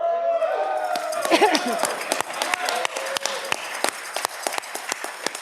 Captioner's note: audience clapping